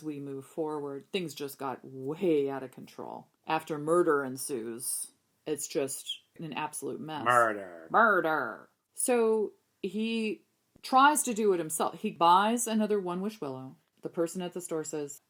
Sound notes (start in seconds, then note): 8.1 goofy voice